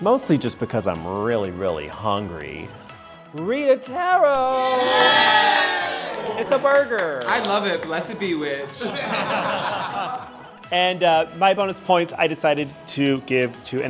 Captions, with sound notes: mostly just because I'm really, really hungry, Rita Tarot. (campers cheering) It's a burger. - I love it. Blessed be, witch. (everyone laughing) - And my bonus points I decided to give to,